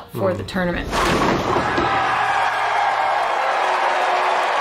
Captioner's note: crowd cheering